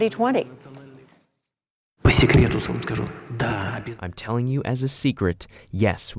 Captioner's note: through translator